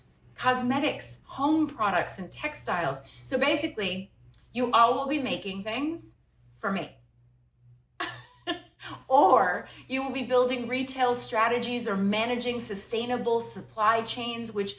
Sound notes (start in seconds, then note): 8.0 laughter